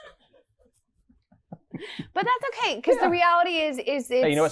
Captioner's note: laughs